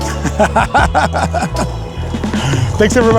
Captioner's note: cart wheels clattering; laughing